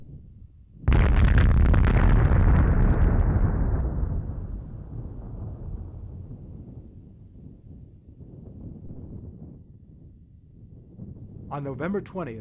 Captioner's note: explosion Sounds